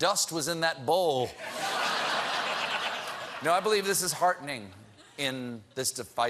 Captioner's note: laughter